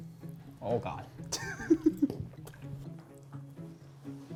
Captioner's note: laughs